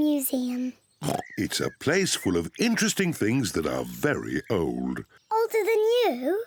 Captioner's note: oinks